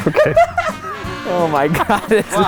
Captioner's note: all laughing